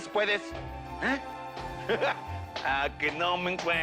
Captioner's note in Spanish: Risas